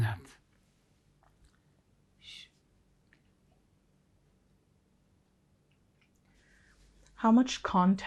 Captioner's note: pauses 6 seconds